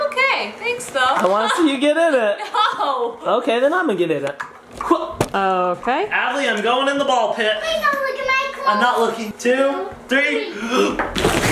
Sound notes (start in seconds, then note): 10.5 gasps